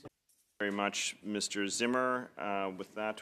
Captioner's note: speaking French